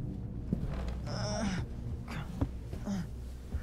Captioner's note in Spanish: Gruñidos